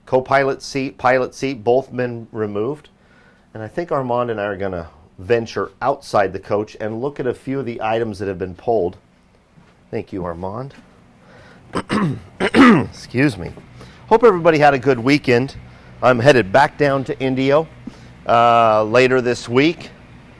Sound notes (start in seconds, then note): 11.7 clearing his throat